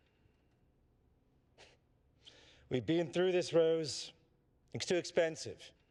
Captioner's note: scoffs